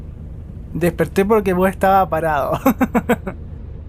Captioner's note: laughs